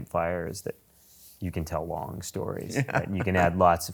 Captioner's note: laughs